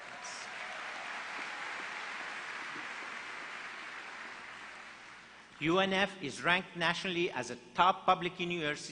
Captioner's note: applause